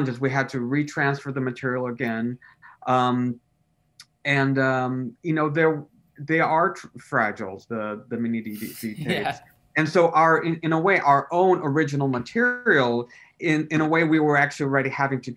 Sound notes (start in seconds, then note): 8.5 laughs